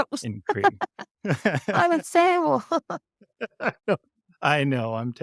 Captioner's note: laughs